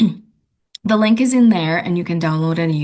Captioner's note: clears throat